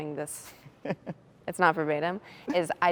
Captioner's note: chuckles